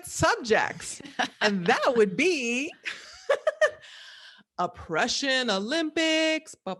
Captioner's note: laughing